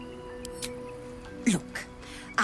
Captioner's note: peaceful background orchestral, chirping birds; click